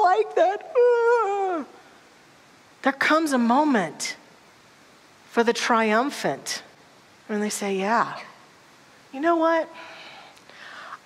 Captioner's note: crying sounds